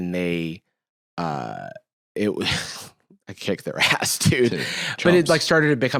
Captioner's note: laughs